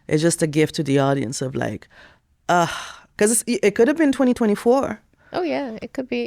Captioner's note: sighs